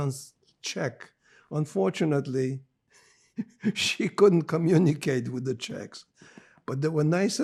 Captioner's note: laughing